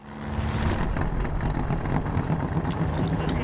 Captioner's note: engine revving